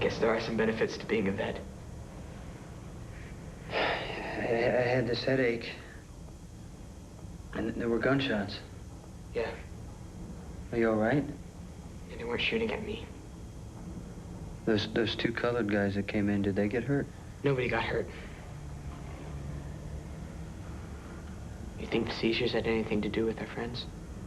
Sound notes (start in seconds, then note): 3.6 sighs